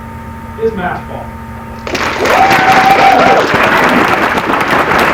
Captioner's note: applause